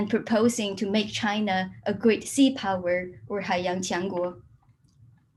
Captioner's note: speaks in a foreign language